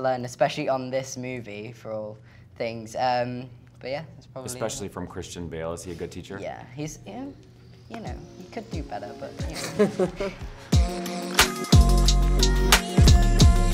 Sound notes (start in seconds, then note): 9.5 laughing; 10.9 gentle music